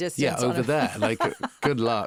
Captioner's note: laughing; interviewer laughing